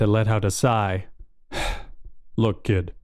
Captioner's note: sigh